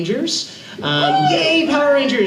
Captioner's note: crowd